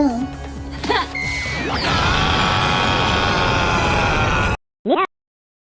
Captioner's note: distorted screaming and whirring